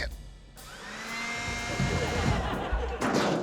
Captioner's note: grunts; leafblower whirrs